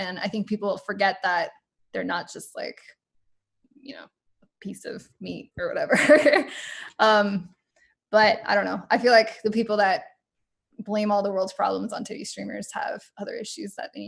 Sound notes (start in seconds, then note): 6.0 laughs